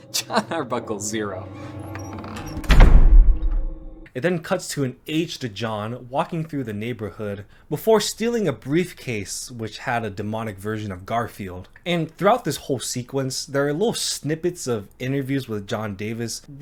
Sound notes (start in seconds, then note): 1.5 door slams